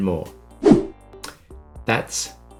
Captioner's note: scene change whooshing